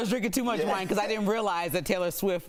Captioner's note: laughter